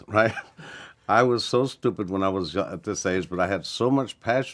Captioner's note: chuckles